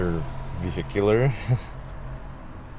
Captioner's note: chuckles